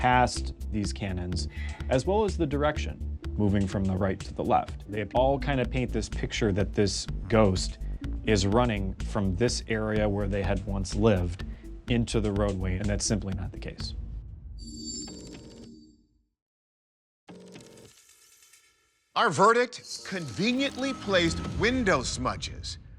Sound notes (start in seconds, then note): 13.9 suspenseful music; 14.5 graphics whoosh